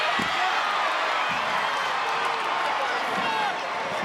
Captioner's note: audience cheers